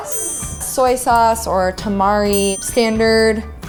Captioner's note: ding